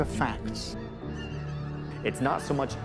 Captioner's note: gulls call